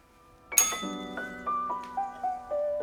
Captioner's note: bell rings